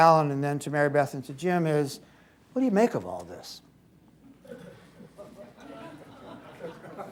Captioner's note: laughter